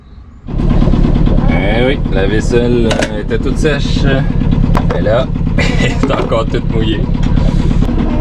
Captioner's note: laughs